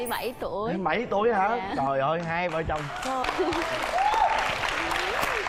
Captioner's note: applause